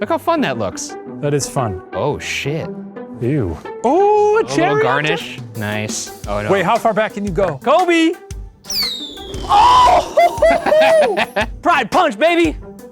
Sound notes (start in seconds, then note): 8.7 cherry wooshes; 9.6 exclaims; 9.8 laughs